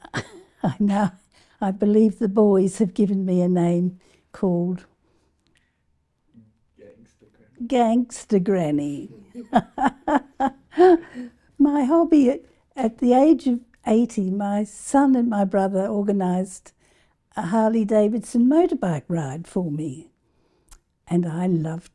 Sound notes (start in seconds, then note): 0.0 laugh; 4.9 silence; 9.0 laugh